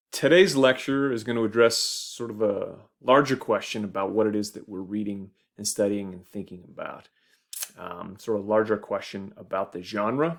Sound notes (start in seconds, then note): none